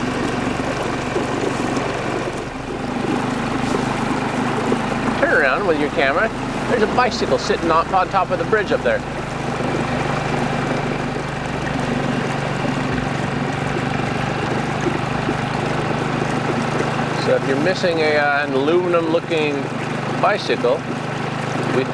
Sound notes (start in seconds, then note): 8.9 engine rumbling; 8.9 water trickling